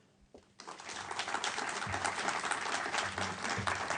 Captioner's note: applause